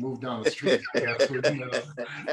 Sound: laughter

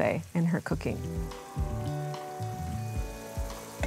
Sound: oil sizzling

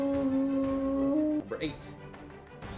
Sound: humming

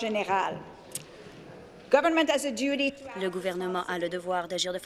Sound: speaking in French

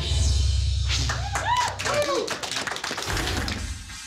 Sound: applause

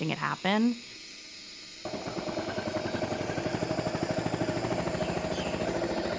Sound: water running; motor sputtering; bird chirping

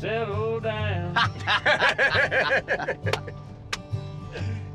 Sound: laughing

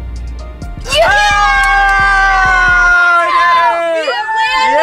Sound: cheering

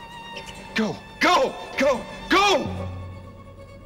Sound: <i> squeaking</i>

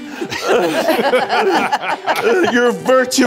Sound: all laughing

